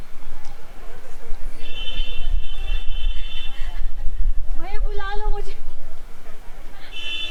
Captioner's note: laughing